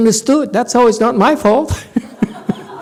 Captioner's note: laughs, audience laughs